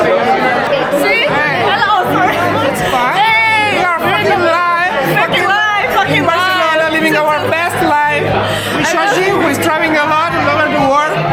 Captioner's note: wildly excited babbling